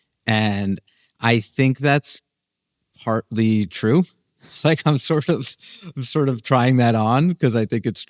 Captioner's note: laughs